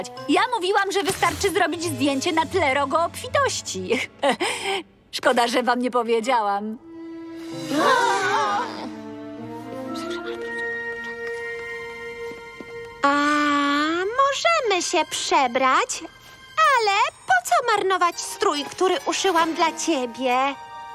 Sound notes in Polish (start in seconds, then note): 9.5 szepcze